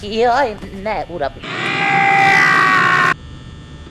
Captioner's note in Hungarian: Üvölt